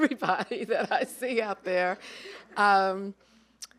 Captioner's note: chuckling